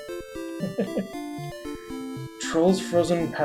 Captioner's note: chuckles